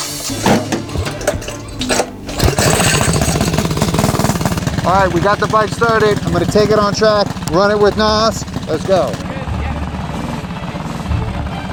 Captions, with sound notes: (motorcycle engine cranking then revving) All right we got the bike started. I'm gonna take it on track, run it with NOS. Let's go.